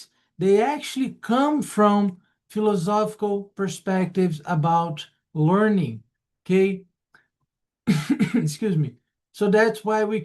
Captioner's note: cough